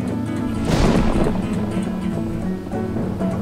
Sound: thundering

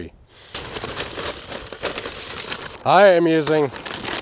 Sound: paper bag rustling

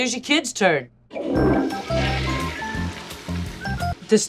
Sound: toilet flushes

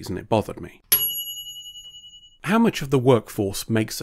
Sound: ding

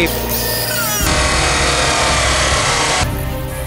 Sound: grinder buzzing; dramatic music

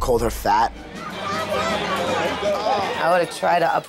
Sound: people yelling

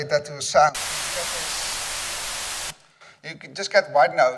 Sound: white noise buzzing

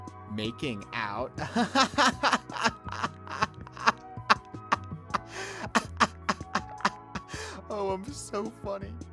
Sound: laughter

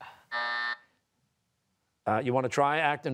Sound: buzzer

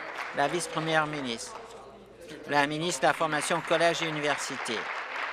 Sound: applause

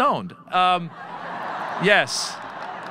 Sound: audience laughing

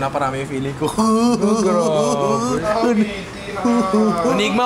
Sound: laughs

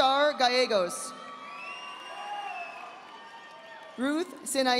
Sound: audience applauding

